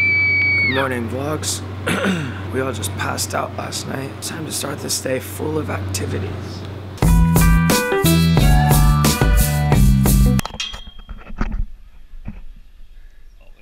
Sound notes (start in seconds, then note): 1.8 cough